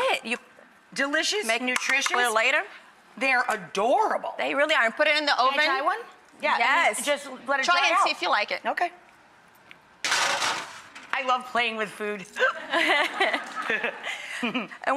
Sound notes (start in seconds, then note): 10.1 metal clanks; 12.4 laughter; 12.4 chuckles